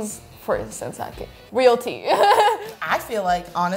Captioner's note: laughs